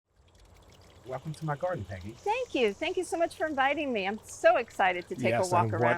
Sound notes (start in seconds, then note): 0.1 running water in garden